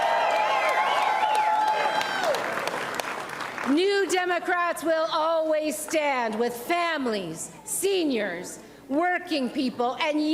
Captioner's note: applause and cheering